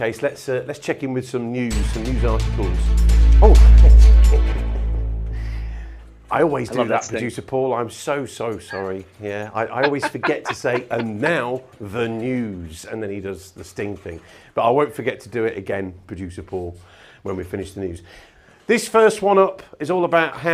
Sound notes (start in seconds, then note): 4.0 chuckles; 6.6 upbeat music